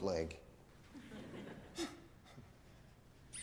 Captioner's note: students laughing